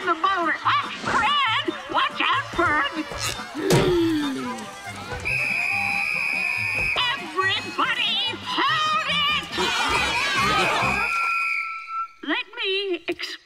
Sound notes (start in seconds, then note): 3.5 gasping; 5.1 whistle blowing; 10.8 whistle blowing